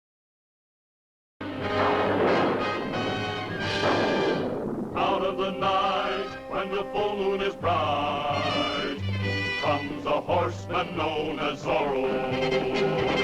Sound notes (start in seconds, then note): 1.4 thunderclap